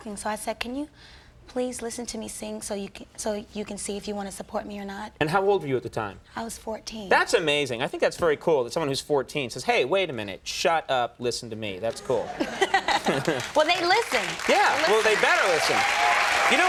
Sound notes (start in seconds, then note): 12.2 laughing; 12.6 audience applauding